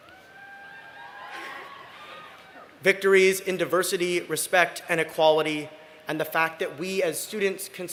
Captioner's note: cheering